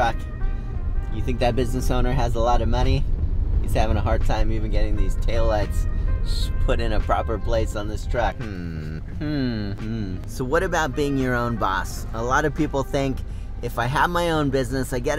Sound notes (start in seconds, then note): 8.3 hums